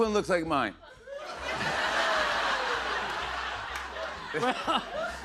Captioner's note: laughter; chuckles